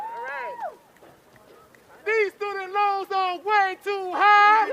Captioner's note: applause